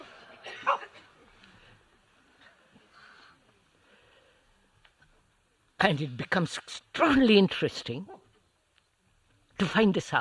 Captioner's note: laughter